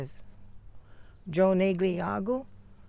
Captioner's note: speaks oneida language